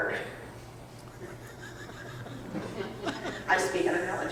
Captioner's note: audience members laughing